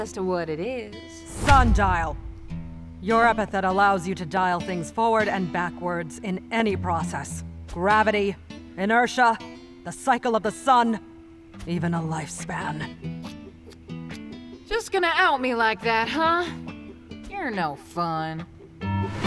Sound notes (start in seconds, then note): 13.2 Zora clicks her tongue